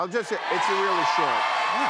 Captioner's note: cheers and applause